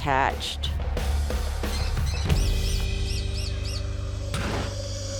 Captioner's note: birds tweeting